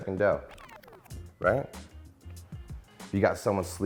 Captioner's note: record scratches